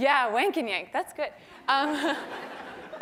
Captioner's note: laugh